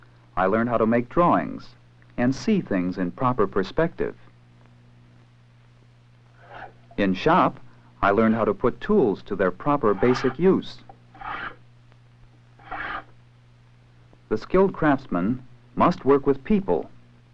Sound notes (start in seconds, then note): 11.1 scraping sounds